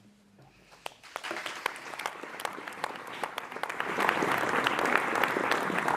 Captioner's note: applause